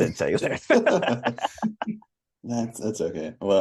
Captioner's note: laughter